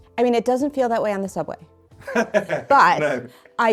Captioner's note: laughter